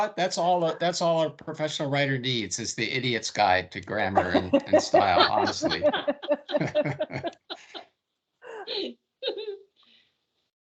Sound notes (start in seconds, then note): 4.0 everyone laughing; 8.4 laughing